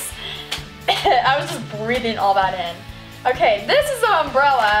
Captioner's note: coughs